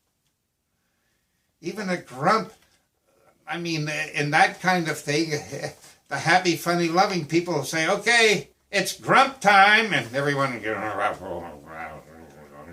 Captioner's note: grumble, grumble, grumble